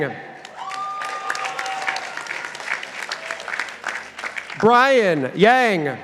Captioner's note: participants applauding